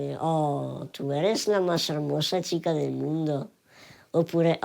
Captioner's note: in spanish